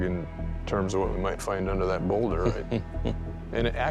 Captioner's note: chuckles